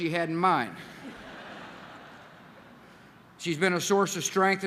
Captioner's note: laughter